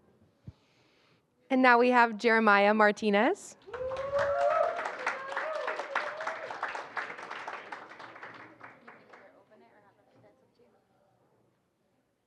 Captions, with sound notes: And now we have Jeremiah Martinez. [APPLAUSE] [INDISTINCT CHATTER]